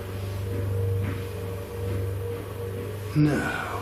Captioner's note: footsteps